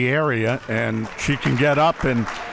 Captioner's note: audience applauds